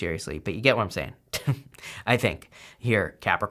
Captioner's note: chuckles